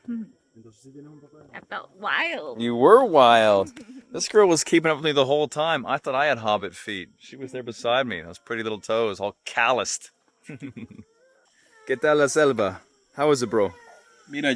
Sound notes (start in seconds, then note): 10.4 chuckles; 11.9 speaking in foreign language